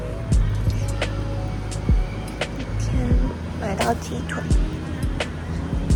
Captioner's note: laughs